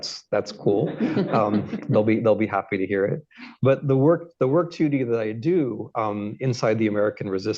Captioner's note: laughter